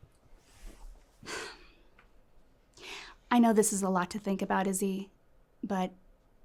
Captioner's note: sighs